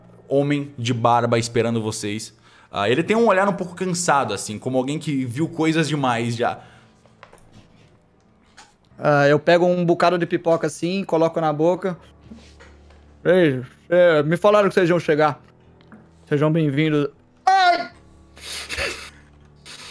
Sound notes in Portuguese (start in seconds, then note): 18.7 Risadas